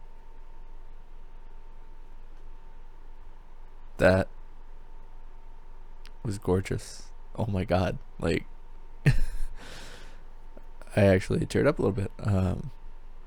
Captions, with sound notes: That was gorgeous. Oh my god. Like... [laughs] I actually teared up a little bit, um